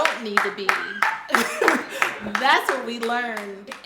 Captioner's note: chuckles